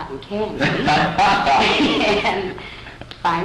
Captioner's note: laughter